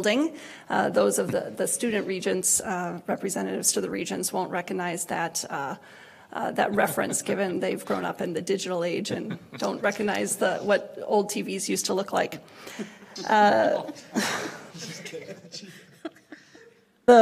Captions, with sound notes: Those of the Student regents-- Representatives to the Regents, won't recognize that, that reference given they've grown up in the digital age and don't recognize what old TV's used to look like. (laughs)